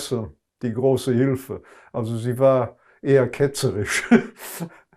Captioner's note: laughing